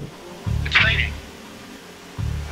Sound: man on radio

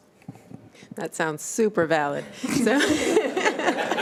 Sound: chuckling

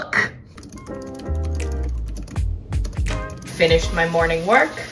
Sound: upbeat music; keyboard typing

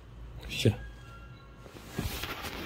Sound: the door bell ringing

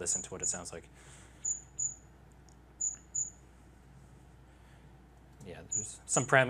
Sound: chirps

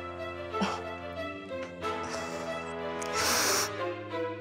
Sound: sniffling

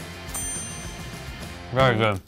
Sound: clink sound

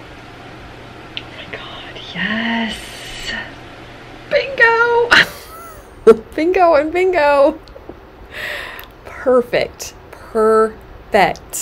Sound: laughs

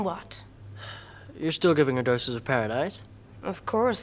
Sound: sighs

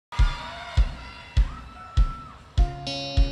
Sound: crowd cheering

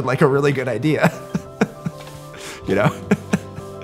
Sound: chuckles

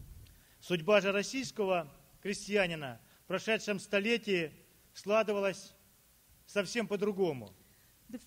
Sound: speaking Russian

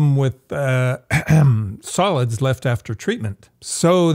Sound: clears throat

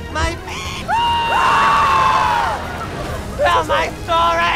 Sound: screams

